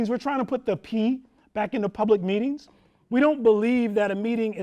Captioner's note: none